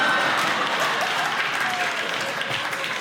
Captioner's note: audience laughing